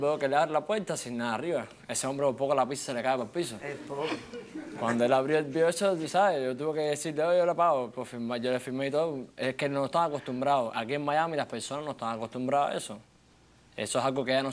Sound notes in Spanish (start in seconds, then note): 3.8 Risas